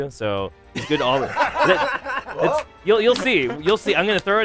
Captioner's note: laughter